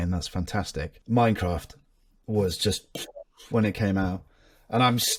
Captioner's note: mouth pops